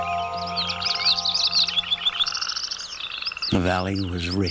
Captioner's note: music Stopped. Birds and frogs Chirping